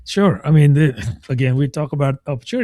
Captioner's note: uh